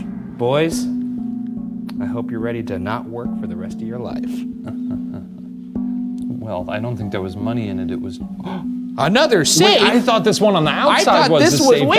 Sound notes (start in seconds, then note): 4.6 chuckling; 8.4 gasps